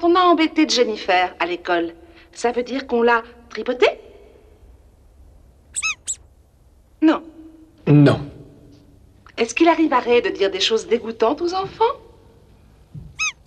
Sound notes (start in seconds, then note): 5.7 squeaks once; 13.1 squeaks once